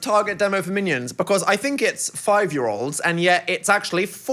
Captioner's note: none